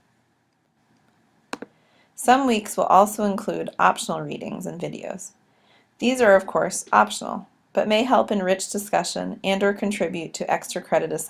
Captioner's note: click